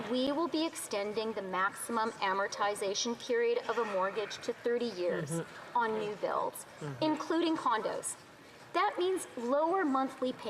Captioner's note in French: voix de l'interprète